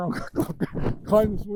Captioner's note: laughing